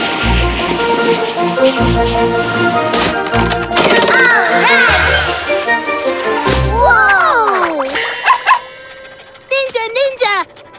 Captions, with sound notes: All right! Whoa! [barking] Ninja ninja!